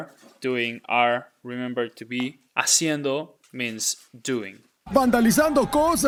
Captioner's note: speaking in Spanish; speaking in Spanish